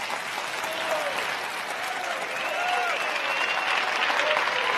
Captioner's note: crowd applauding